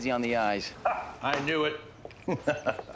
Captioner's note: laughs